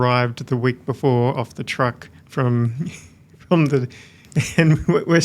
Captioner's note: chuckles